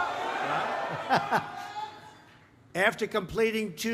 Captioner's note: laughs